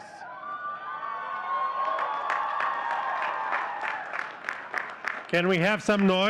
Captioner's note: audience cheering and clapping